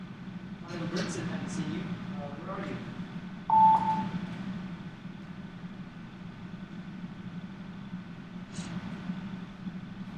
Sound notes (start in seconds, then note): 3.5 phone beeping